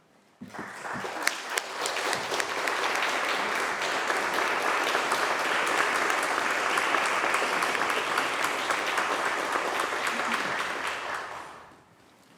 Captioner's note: applause